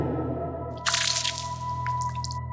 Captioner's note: pouring sound